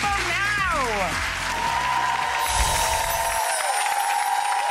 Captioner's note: crowd cheers